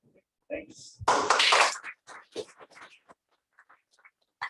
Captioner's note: applause